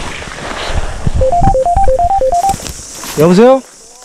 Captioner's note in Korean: 벨소리